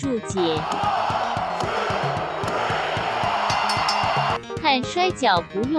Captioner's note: crowd cheers